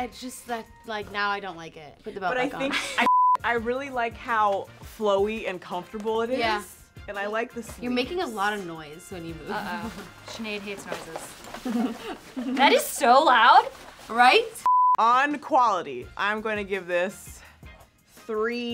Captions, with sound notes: - It's just that now I don't like it, put the belt back on. (beep) - I really like how flowy and comfortable it is. - Yeah. - And I like the seams. - You're making a lot of noise when you move. - Uh oh. Sinead hates noises. (dress rustling) That is so loud. - Right? (beep) - On quality, I am gonna give this